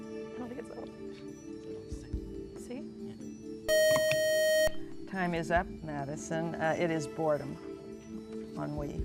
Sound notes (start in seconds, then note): 3.7 buzzer